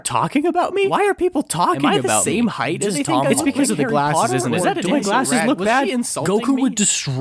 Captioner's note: overthinking noises intensify